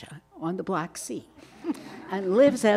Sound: audience laughing

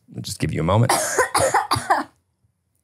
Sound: coughs

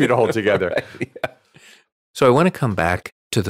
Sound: laughing

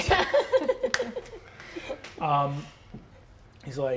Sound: laughing

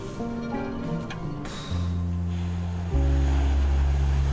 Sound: exhale

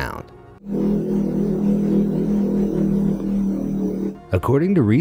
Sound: frequency rumbling

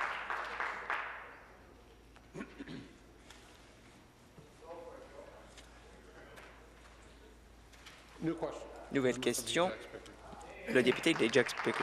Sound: applause

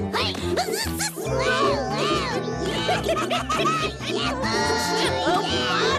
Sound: giggles

